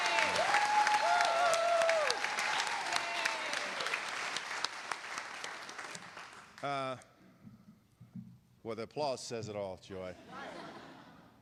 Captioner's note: cheers and applause